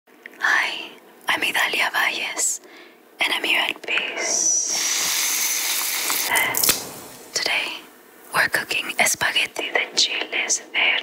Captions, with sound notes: - Hi, I'm Idalia Valles, and I'm here at BESE. (pouring) (cracking) Today we're cooking espagueti de chiles verde.